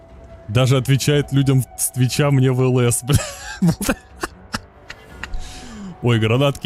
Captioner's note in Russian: смех